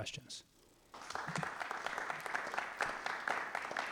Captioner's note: applause